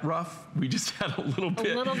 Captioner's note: laughter